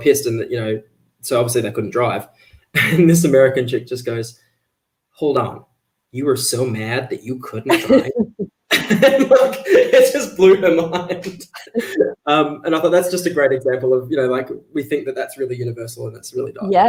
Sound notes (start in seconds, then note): 7.6 both laugh